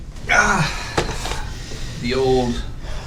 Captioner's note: man grunts